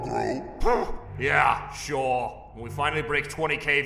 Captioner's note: huffs